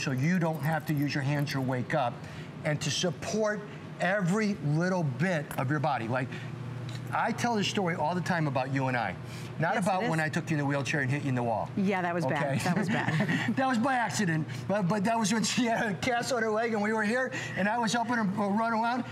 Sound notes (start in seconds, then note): 12.6 laughter